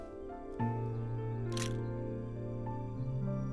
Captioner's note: Clicks